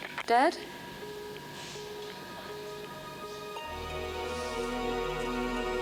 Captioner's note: discontinuation tone beeping